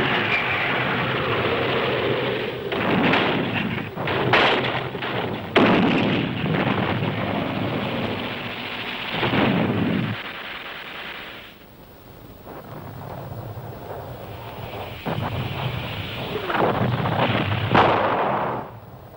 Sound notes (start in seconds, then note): 5.6 canon booming; 15.2 explosions booming